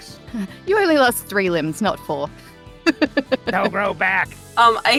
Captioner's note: chuckles